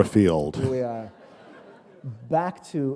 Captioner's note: laughter